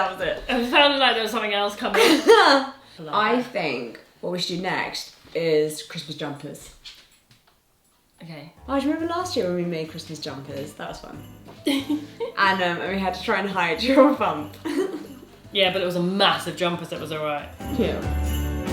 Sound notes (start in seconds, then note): 0.0 laughs; 11.6 laughs; 18.4 warm festive music